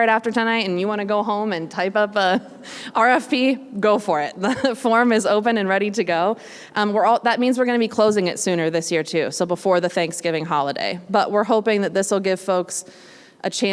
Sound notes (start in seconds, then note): 4.6 laugh